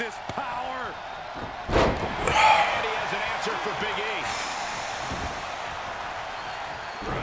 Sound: applause

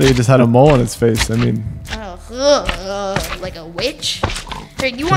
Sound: shudders

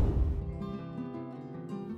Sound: air swishes

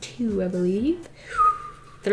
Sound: whistles

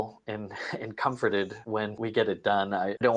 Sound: chuckles

